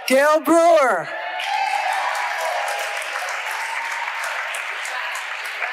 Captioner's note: audience applauding